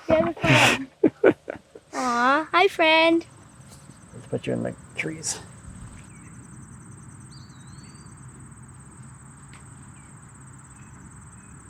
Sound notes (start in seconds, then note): 0.0 child laughs; 0.1 laughing; 7.0 birds twittering